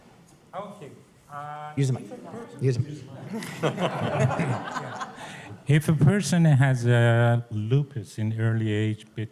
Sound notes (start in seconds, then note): 3.2 laughter